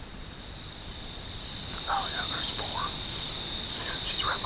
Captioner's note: whispering